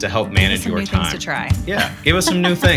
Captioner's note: chuckles